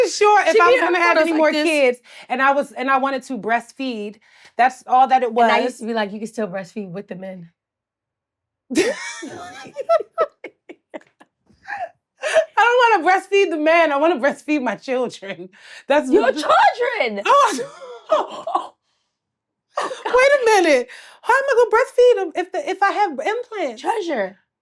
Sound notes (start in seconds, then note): 8.7 Blac Chyna laughs; 8.7 Treasure laughs; 19.8 Treasure laughs